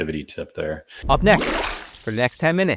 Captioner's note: water splashing